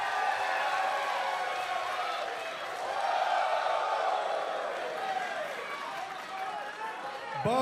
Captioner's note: crowd cheering